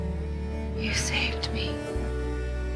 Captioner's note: voiceover